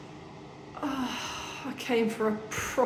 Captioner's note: deep sigh